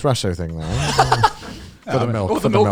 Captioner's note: laughing